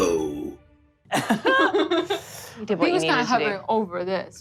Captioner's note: all laugh